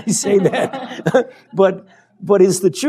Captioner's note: laughter